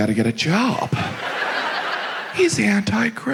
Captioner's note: audience laughs